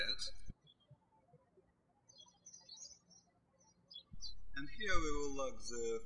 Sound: birds chirping

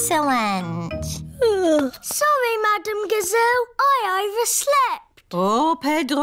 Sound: yawns

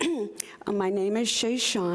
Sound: clears throat

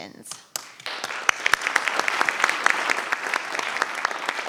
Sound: audience applauding

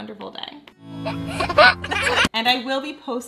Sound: giggling

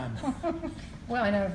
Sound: laughing

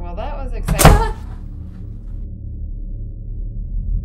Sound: loud noise

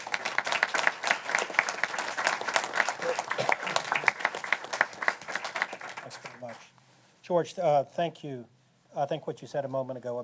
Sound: applause

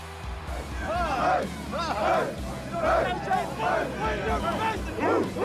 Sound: uplifting rock music; football players chanting

